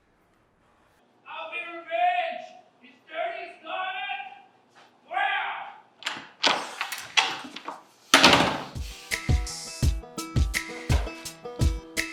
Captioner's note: Cloten shouting